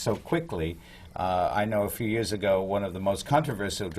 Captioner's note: none